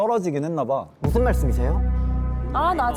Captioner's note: serious sound effect